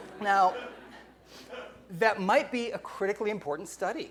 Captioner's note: laughing